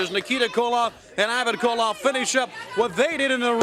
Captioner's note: crowd cheering